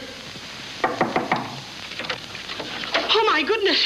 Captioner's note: knock on door